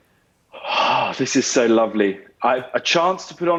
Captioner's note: sighs